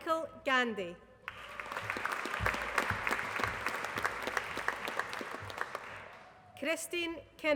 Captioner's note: applause